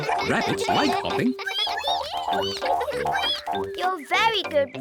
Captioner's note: all giggle; all squeak